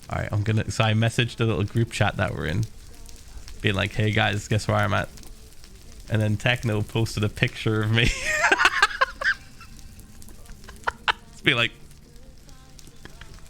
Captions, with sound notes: “Alright, I’m gonna.” So I messaged the little group chat that we’re in being like “Hey guys, guess where I am at.” And then Techno posted a picture of me. *Laughs.* Just being like